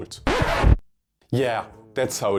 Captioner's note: record scratch